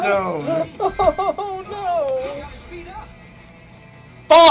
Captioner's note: laughing nervously